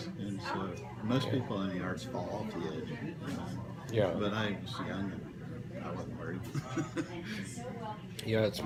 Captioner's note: chuckle